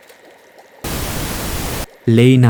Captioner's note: interference